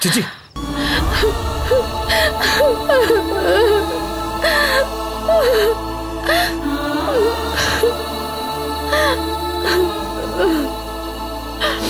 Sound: crying

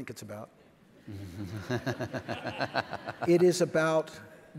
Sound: laughs

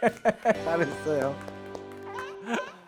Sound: applause

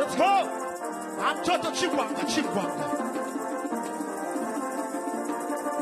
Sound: man speaking in language other than English

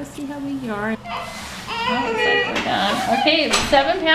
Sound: baby crying

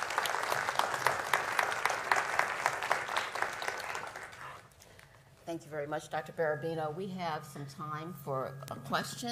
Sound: applause

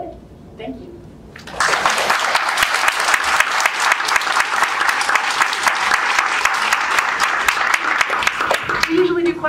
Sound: applause

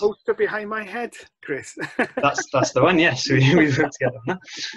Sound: laughs

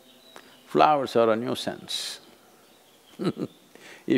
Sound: laughs

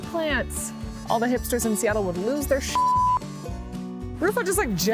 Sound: beep

